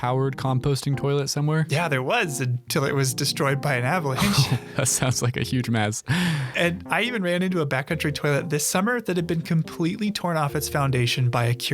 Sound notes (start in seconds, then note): 4.2 laughs